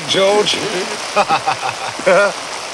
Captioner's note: laughing